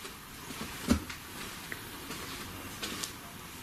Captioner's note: footsteps